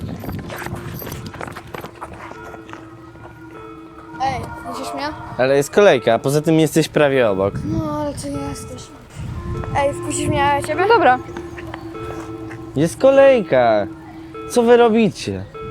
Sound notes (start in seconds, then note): 0.0 poignant music; 3.5 sound of an ambulance